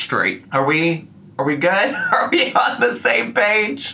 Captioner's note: laughs